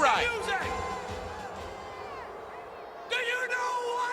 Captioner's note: crowd murmuring